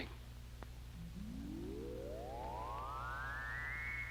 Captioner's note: radar pulsing